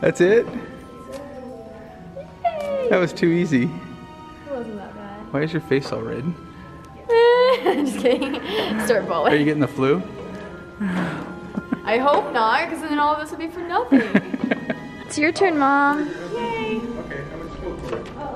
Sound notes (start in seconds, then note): 13.9 dad laughing